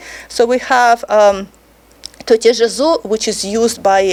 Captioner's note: speaking foreign language